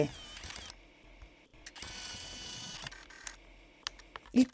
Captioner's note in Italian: Rumore di fotocamera